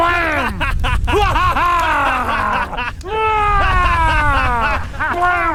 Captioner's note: fire roaring; hunters maniacally laughing